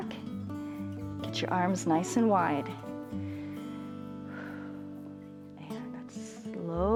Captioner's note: exhales